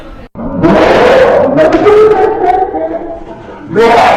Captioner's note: roar